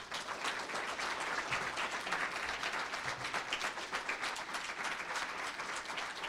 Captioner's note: applause